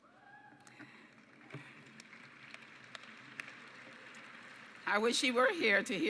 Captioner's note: applause